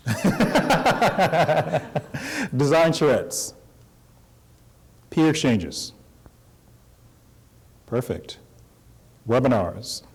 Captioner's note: laughter